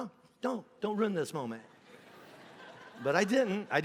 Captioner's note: congregation laughing